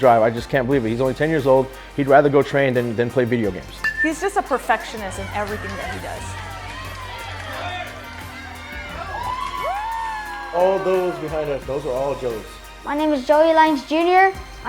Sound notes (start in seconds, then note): 8.5 crowd cheering